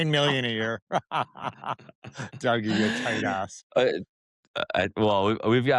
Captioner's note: laugh